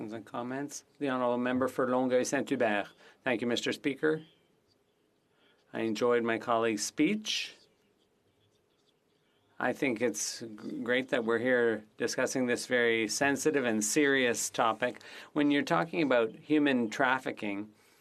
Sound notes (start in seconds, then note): 5.7 speaking French